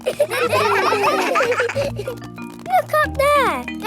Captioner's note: children laughing